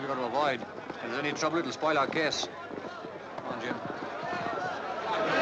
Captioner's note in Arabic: الناس يتحادثون